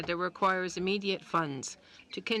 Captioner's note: speaking in French